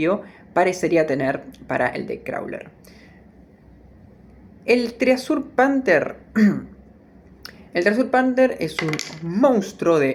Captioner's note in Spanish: carraspeo